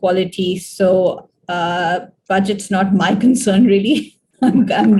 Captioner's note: laughs